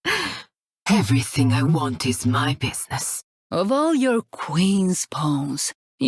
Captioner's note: sigh